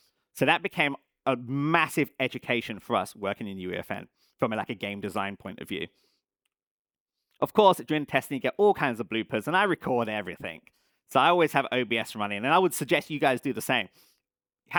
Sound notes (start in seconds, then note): none